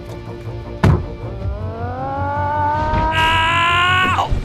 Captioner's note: yells